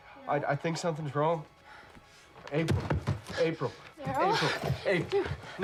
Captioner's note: breathing heavily